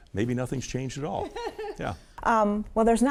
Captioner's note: laughing